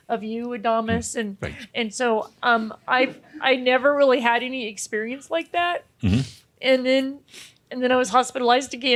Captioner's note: she sniffles